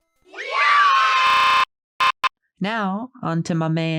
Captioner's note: distorted audio of children cheering